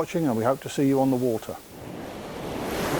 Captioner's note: waves crashing